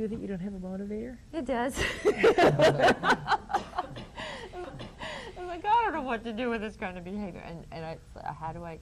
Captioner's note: laughs